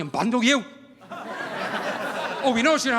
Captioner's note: audience laughing